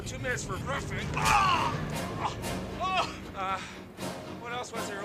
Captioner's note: grunting